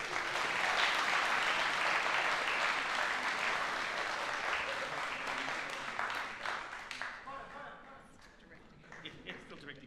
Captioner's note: applause